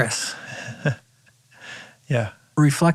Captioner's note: chuckles